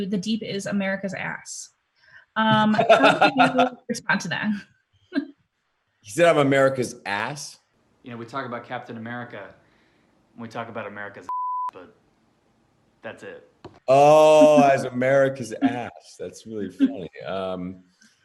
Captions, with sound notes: The Deep is America's ass. (laughing) How do you respond to that? - He said I'm America's ass? Yeah, we talk about Captain America, we talk about America's (beep) but, that's it. Oh! As America's ass. That's very funny. Um.